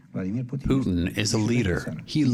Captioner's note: through translator